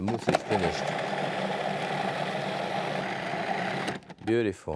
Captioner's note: blender whirring